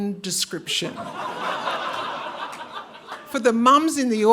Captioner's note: audience laughing